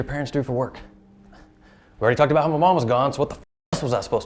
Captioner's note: scoffs